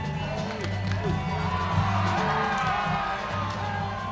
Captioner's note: cheering; uneasy music